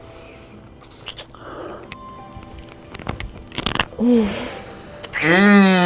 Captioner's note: loud kissing and moaning